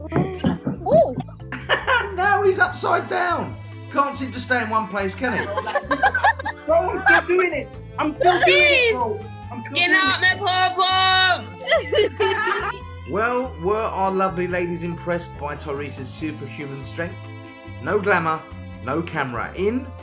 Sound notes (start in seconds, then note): 7.3 general laughter; 11.6 laughter